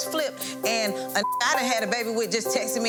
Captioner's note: beep